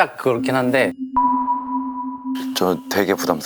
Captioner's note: worried